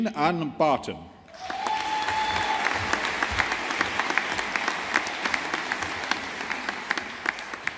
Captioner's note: audience applauding